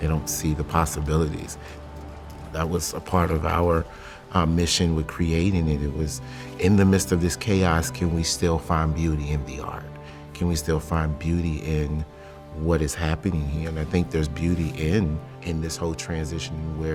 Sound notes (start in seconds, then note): none